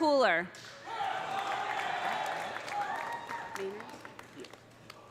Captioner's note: audience cheering; audience applauding